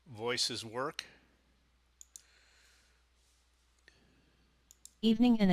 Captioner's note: sound of mouse clicking